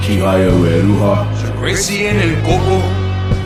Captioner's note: non-english speech